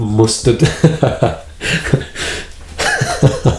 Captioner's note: laughs